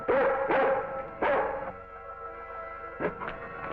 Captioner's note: Venus barking